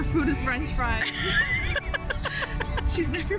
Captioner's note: both laughing